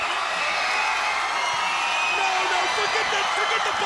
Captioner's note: crowd cheering